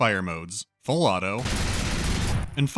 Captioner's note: automatic fire